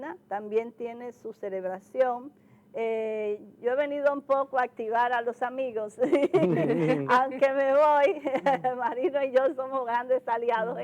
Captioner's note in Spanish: risas